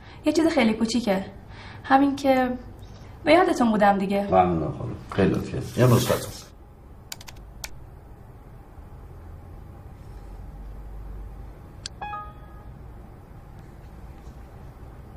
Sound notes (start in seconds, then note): 11.9 notification